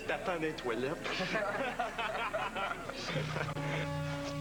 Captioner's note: Rires